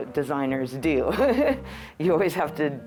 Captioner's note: laughing